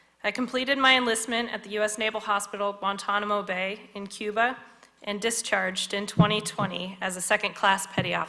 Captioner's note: none